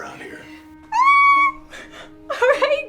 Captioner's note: Jessica squeals